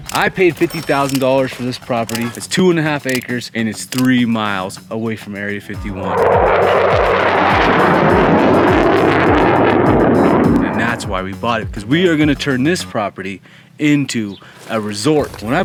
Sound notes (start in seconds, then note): 5.8 jet engines roaring